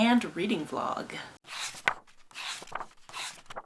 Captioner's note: pages turning